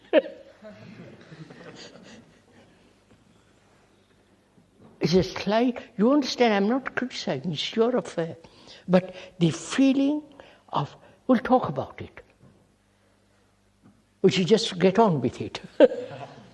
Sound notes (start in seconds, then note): 2.0 laughs; 3.0 laughter; 15.7 laughter; 15.8 laughs